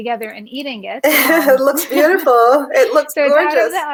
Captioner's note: laughs